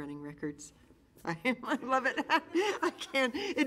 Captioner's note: laughing